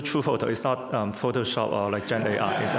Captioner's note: crowd laughs